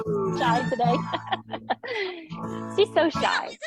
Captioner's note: chuckles